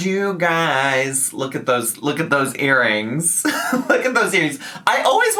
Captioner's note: laughs